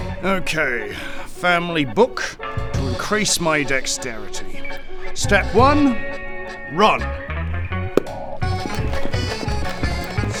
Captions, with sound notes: Okay, family book to increase my dexterity step 1 run *running noises*